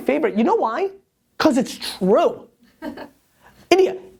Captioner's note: laughs